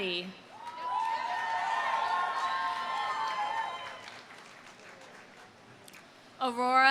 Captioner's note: audience cheering; audience applauding